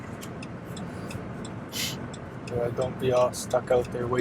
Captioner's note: turn signal blinking